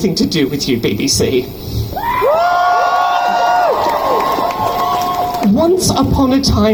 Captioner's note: crowd cheers